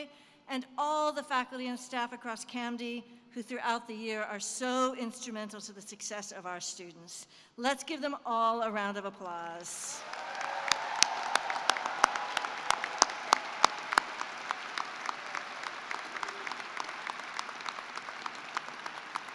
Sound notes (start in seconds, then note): 9.5 cheering and applause